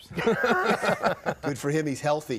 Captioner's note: laugh